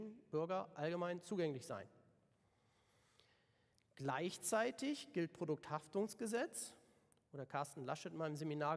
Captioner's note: German